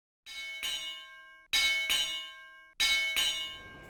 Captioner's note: bell ringing